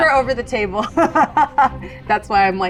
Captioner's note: laughs